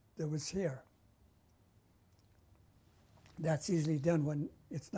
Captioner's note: pauses for 3 seconds